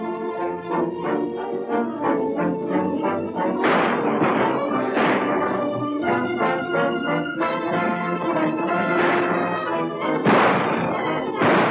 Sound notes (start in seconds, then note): 3.6 gunshots